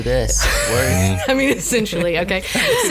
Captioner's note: laughs